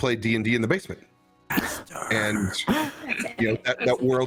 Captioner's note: whisper